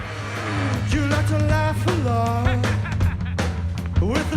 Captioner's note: ha ha ha ha